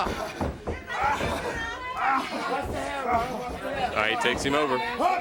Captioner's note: crowd chatter